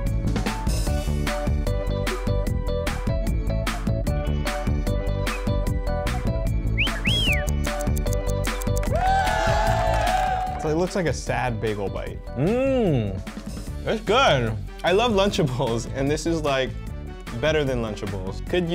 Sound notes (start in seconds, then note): 6.6 whistle; 7.4 timer ticking; 8.8 crowd cheers